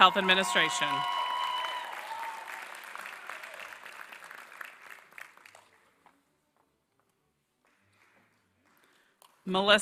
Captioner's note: applause